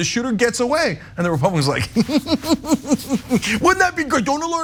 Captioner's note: laugh